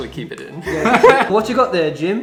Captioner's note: laughs